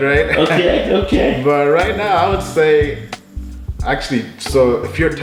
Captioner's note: laughing